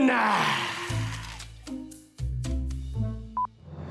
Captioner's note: mysterious music; signal beeps; triumphant music